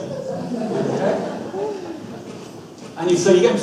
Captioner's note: audience laughs